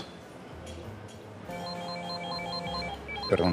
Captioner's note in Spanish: Suena el celular